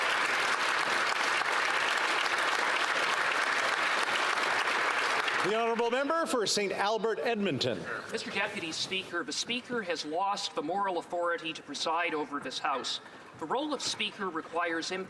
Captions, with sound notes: AND IT CELEBRATED IN A SPIRIT OF MUTUAL CELEBRATION AND UNDERSTANDING AND INCLUSION. [Applause] >> Mr. DEPUTY SPEAKER, THE SPEAKER HAS LOST THE MORAL